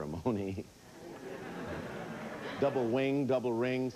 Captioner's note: audience laughing